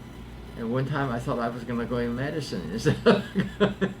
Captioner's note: laughs